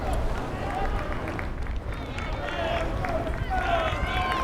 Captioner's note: fans applauding